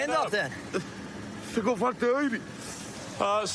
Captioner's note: speaking spanish